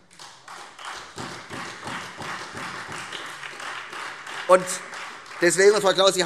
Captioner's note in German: Beifall Freie Demokraten und vereinzelt SPD